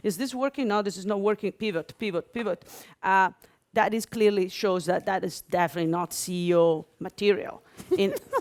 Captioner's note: laughter